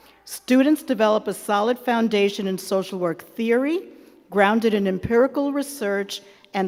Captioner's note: none